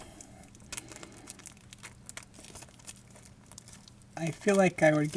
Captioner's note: plastic crinkling